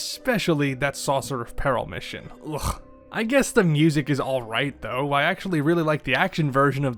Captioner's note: ugh